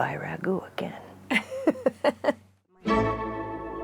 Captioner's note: laughs